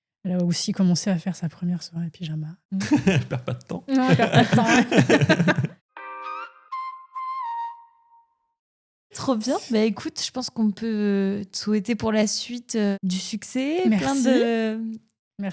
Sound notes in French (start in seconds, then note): 3.9 rires